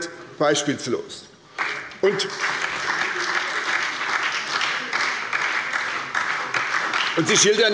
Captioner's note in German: Beifall bei der SPD